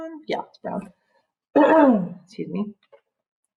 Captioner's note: cough